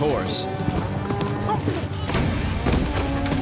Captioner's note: grunts